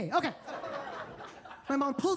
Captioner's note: attendees laughing